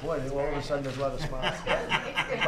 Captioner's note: laughter